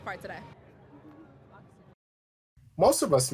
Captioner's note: muffled chattering in the background